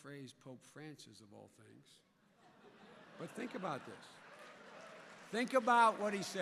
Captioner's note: laughter